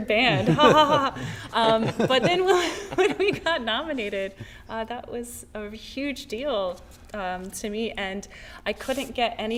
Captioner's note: laughter